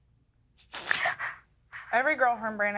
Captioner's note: sobbing